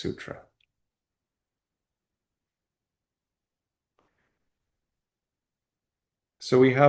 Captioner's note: pause